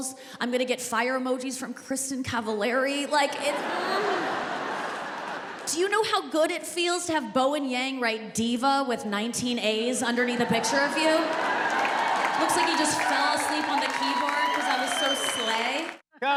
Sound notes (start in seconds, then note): 3.2 laughter